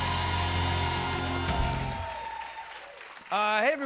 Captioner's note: cheers and applause